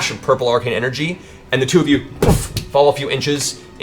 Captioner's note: boof